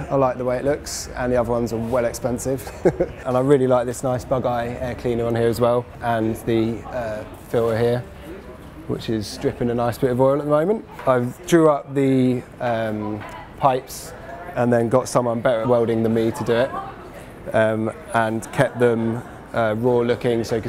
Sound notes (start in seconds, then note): 2.6 laughs